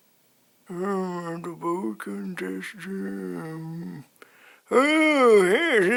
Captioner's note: mumbling